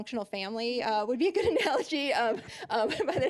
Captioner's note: laughing